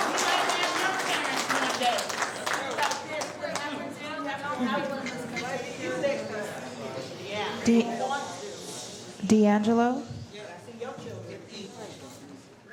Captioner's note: cheers and applause